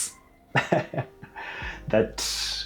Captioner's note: laughing